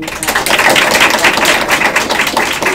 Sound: applause

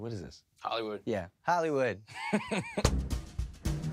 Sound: chuckles

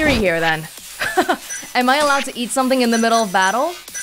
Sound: chuckles

